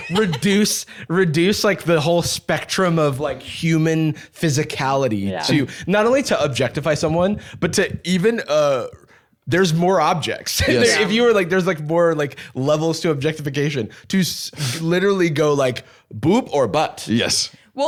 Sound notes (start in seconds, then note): 10.6 laughs